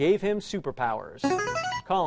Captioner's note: chiming